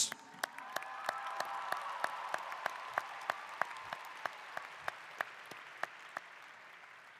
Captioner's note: applause